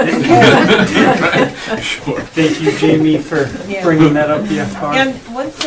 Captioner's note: all laughing